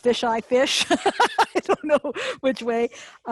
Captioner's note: laughing